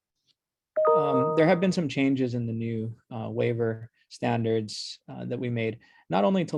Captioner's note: chime